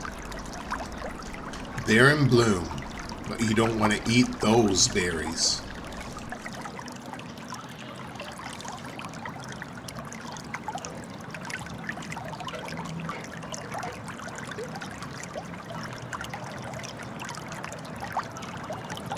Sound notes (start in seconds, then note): 6.8 running water